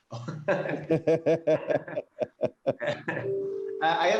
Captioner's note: laughter